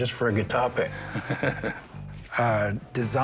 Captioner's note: laughs